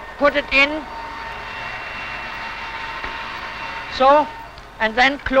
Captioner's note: machine whirring